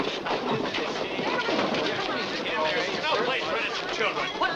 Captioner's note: crowd muttering